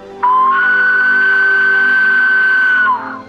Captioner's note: falcon screeching